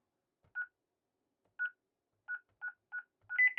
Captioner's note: beeping